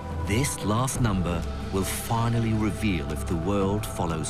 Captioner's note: voiceover